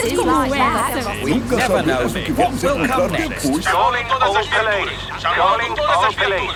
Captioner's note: radio